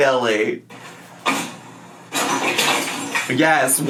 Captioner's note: purses crashing onto floor